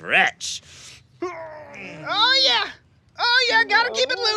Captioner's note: groaning